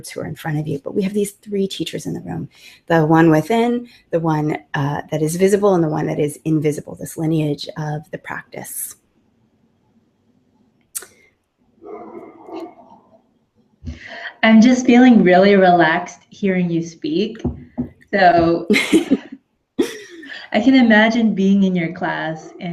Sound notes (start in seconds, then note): 11.8 dogs barking; 18.6 laughter